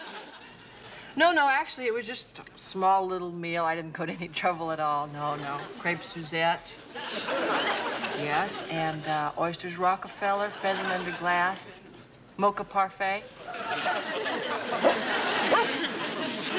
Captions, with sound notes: No, no, actually it was just a small little meal, I didn't put any trouble at all, no, no. Crêpes Suzette. Yes and oysters Rockefeller, pheasant under glass, mocha parfait. [laughter] [dog barking]